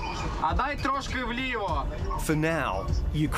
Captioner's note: speaks in ukrainian